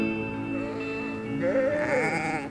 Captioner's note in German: Langsame Musik; Blöken